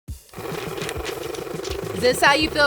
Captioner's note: money gun whirring